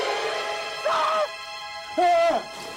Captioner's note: Watkins yells; yells; tense music